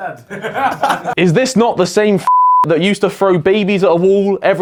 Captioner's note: beep